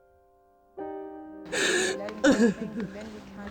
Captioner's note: crying